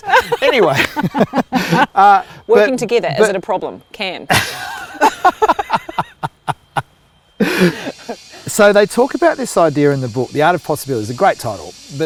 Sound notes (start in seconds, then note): 0.0 laughing; 4.3 laughing; 7.6 wood chipper grinding